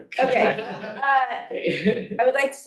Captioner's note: board members laughing